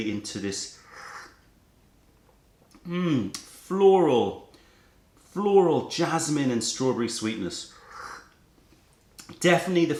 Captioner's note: sips tea